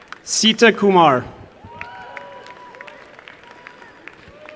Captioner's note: applause